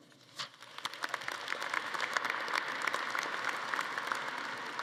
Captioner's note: audience applauding